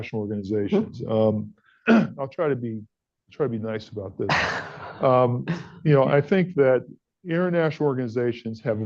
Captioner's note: laughter